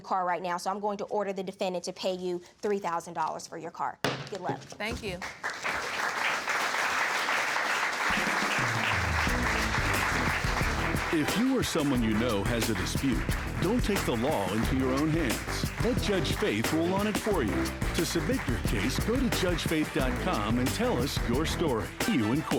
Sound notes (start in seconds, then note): 5.0 gavel banging; 6.7 audience clapping